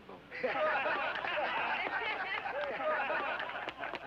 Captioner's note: crowd laughing